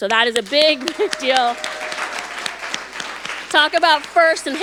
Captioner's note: audience applauding